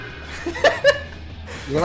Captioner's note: laughs